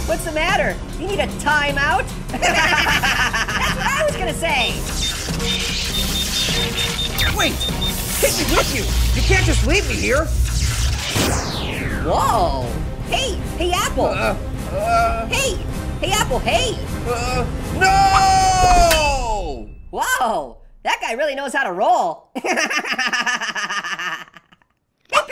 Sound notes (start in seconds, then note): 2.3 both laugh; 5.0 rapid beeping and zapping; 10.8 poof!; 22.9 laughs